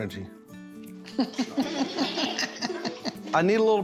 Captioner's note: everyone laughing